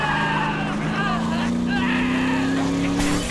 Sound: grunting

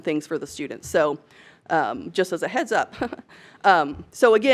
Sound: giggles

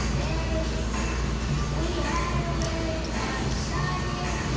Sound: radio droning

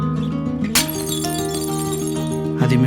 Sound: falling Plates crashing

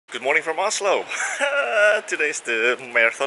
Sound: laughs

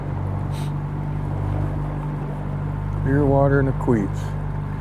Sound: boat engine idling

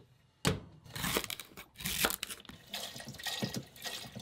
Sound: vegetables crunching; water pouring

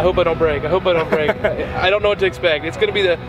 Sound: laughs

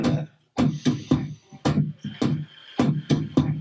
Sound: Mr. Root breathing deeply

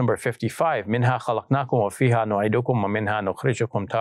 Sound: speaks in Arabic

